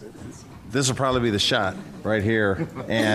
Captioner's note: laughter